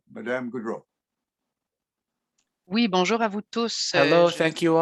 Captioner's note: speaking French